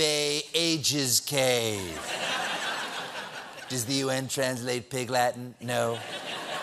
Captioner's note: laughter